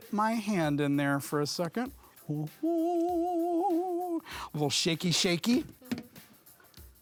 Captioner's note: humming